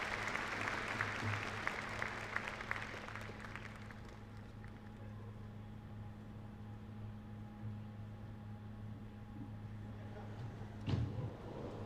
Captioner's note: cheers and applause